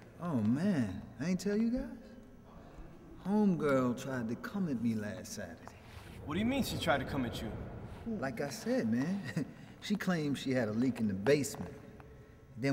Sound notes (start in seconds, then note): 9.3 laughs